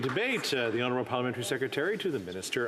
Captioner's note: some Applause